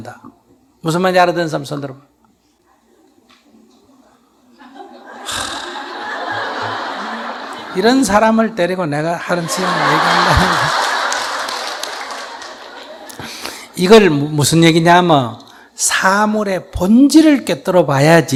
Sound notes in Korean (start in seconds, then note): 4.6 청중 웃음; 12.1 청중 박장대소